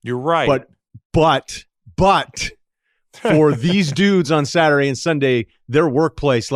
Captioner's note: laughs